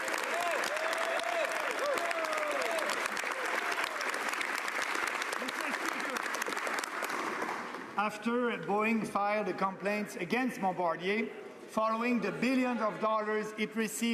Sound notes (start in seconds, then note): 3.6 some Applause